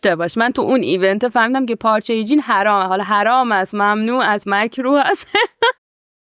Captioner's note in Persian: خنده